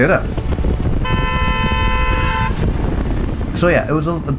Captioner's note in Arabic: التزمير